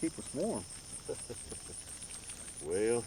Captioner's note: Ishmael chuckling